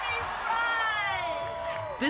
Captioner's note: cheering and applause